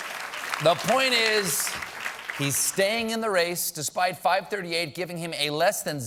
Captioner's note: applause